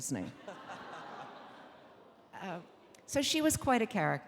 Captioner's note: audience laughing